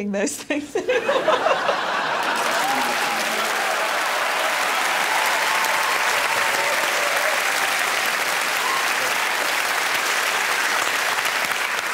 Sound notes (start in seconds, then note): 2.5 laughter; 3.5 cheers and applause